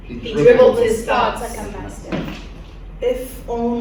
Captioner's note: in Unison